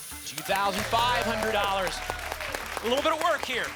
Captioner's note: applause